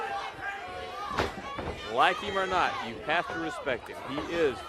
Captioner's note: crowd cheering